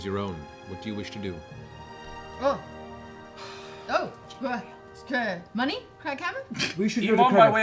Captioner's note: stuttering